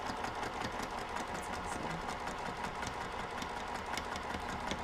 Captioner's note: sewing machine hums